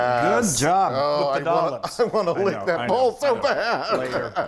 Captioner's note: laugh